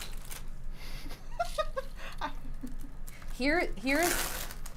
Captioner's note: giggles